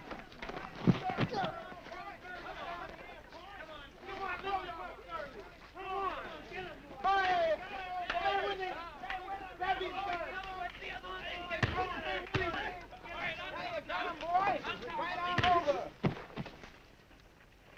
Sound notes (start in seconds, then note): 1.5 groaning; 3.7 men cheering; 11.6 punches striking